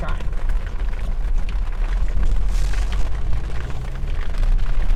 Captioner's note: rain splattering